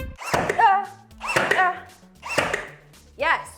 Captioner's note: drill whirring